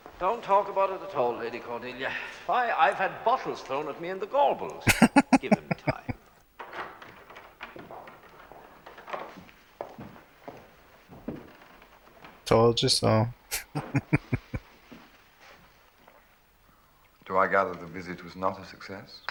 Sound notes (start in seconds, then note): 4.8 laughing; 13.5 chuckling